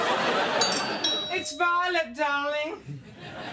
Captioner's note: doorbell